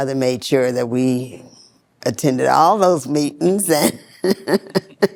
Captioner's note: laughs